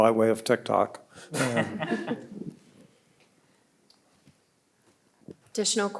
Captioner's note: audience and panelists laughing